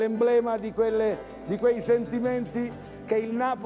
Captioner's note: Applauso